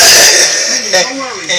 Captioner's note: breathing heavily